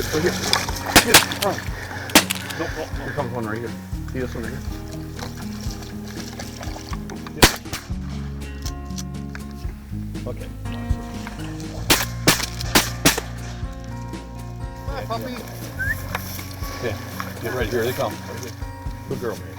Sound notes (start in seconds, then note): 0.9 gun fires; 7.4 gun fires; 11.8 gun fires; 15.6 whistles